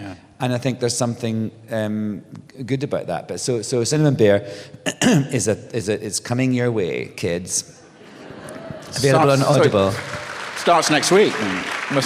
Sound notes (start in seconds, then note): 7.9 laughter; 8.8 applause